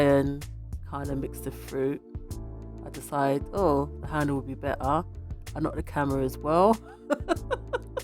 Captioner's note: laughs